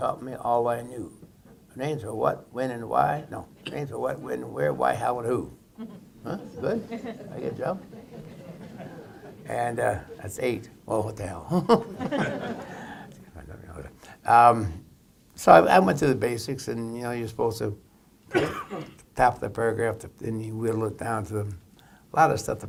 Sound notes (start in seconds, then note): 9.1 laughter; 11.5 laughter